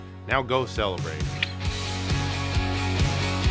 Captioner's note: clicks